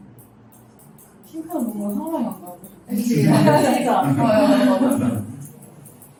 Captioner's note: laughs